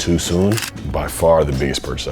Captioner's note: camera shutters